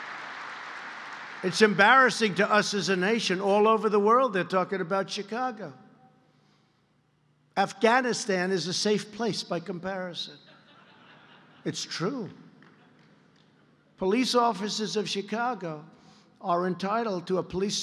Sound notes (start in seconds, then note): 0.0 applause; 10.4 laughter